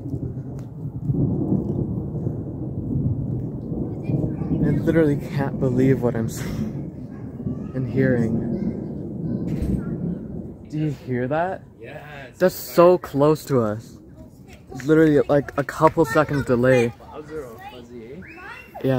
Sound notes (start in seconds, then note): 0.0 loud thunder gets quieter and echoes; 6.9 loud thunder gets quieter and echoes; 8.5 thunder echoes